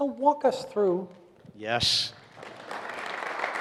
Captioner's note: audience applauds